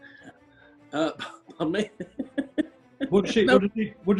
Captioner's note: giggling